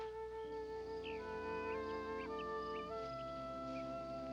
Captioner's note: birds chirping